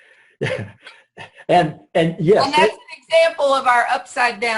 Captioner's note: laughs